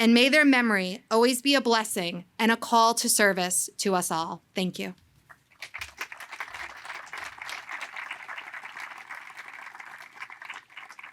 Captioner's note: applause